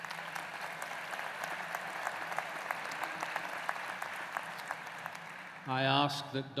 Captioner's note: applause